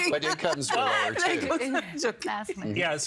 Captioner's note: laughing